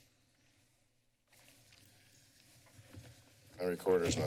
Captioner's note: silence